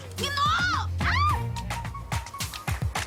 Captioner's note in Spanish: Grito